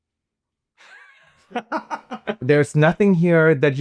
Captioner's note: laughing